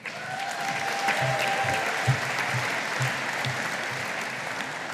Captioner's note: audience applauding